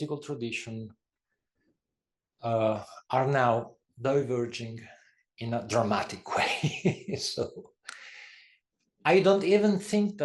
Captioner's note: laugh